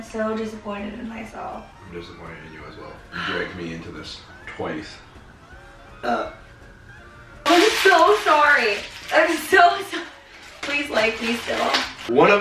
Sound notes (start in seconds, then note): 6.0 belches